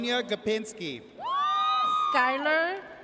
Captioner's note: audience cheers